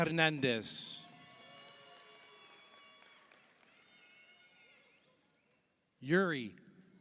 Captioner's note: audience cheers; audience applauds